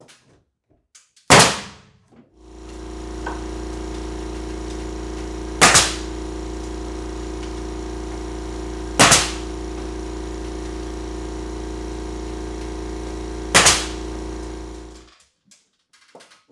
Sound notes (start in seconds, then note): 1.1 nail gun popping; 3.1 machine whirring; 5.6 nail gun popping; 9.0 nail gun popping; 13.5 nail gun popping